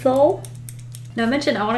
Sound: clicking

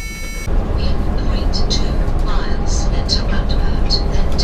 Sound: satnav talking

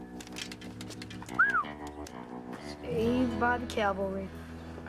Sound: whistles

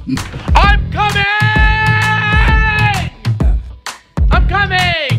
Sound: laughing; shouting

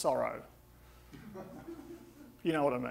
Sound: audience laughing

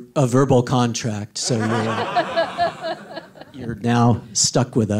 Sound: all laughing

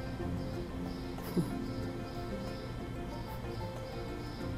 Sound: Shenise chuckles

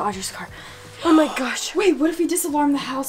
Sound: gasps

